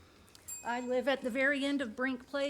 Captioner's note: bell dinging